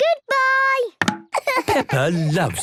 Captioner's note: laughing